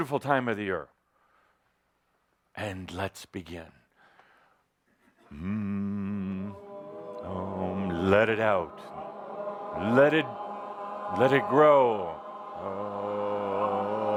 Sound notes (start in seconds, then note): 5.3 he begins humming